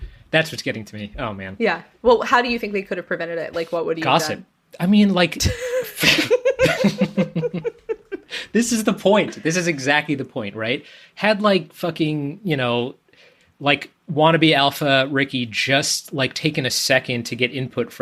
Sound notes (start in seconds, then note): 5.4 laughs